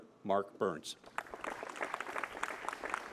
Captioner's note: applause